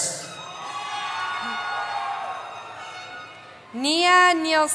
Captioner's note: cheering